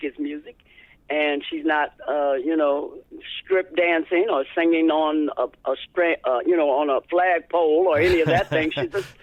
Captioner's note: laughter